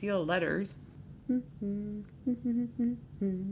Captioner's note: humming